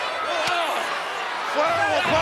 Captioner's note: Savage groans